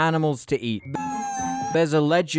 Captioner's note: intensely irritating high-pitched animal squeal